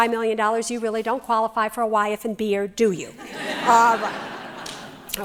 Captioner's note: laughter